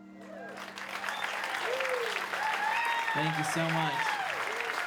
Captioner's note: audience cheers and applauds